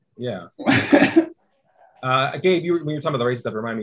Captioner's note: laughing